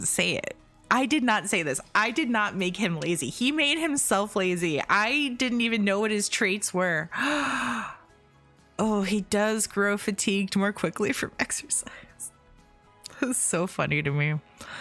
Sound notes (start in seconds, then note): 7.1 gasp